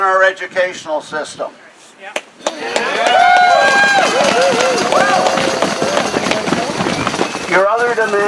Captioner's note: applause